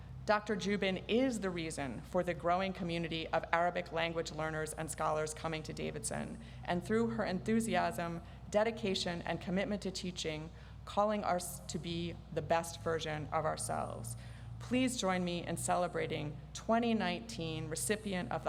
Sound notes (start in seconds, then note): none